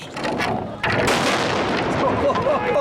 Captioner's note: loud explosion; men laughing